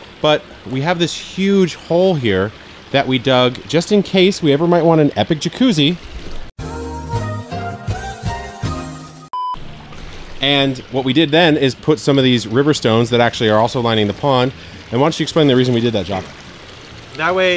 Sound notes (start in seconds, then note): 6.1 beep; 6.6 soft music